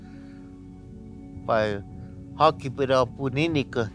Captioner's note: speaking Native language